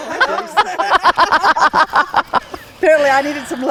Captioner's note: people laughing